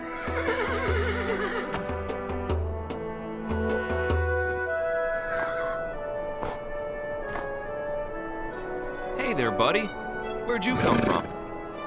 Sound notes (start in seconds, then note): 4.8 horse whinnies